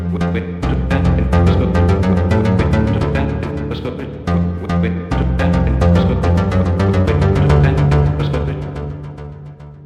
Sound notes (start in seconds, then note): 0.0 upbeat music; 0.8 stuttering AI voice